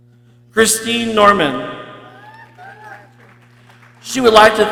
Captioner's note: people cheering